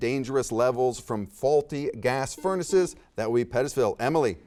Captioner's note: buzzer beeps